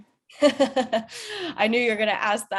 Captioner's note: chuckles